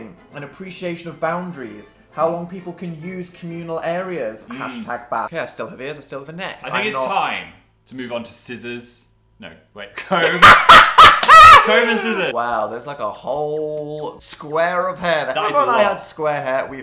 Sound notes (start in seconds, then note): 10.5 cackles